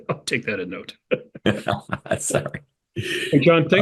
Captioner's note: laugh